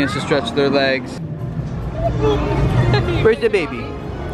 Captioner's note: children chattering